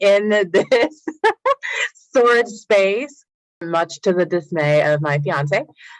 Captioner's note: laughs